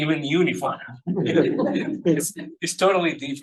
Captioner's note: everybody laughing